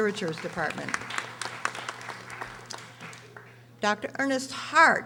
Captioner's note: audience applauding